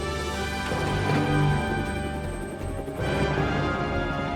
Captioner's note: bell